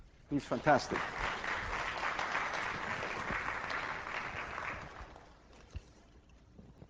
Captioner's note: class applauds